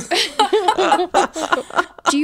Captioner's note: laughing